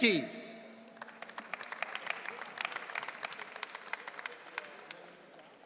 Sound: audience cheering

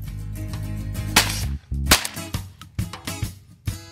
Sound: gun firing

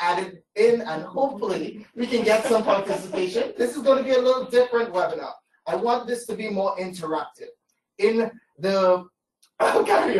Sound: laughter

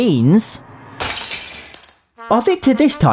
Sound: smash

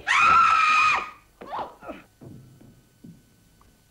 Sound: shrieks; banging

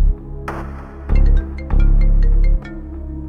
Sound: phone rings

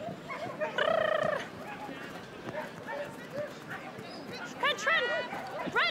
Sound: trills

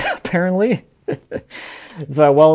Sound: laughing

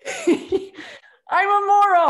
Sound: laughter

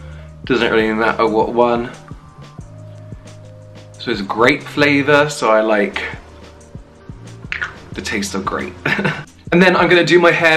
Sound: laughs

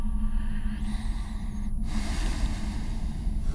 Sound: breathing heavily

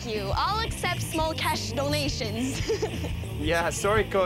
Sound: laughs

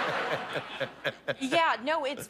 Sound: laughter

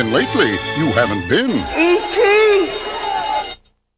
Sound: alarm ringing

